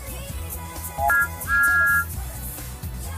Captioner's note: train Whistle